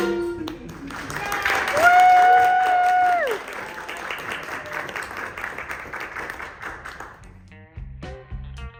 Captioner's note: applause